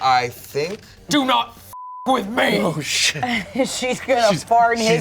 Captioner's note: beep